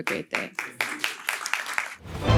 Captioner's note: applause